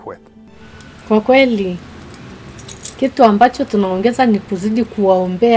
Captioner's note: speaking in foreign language